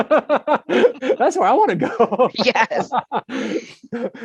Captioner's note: laughs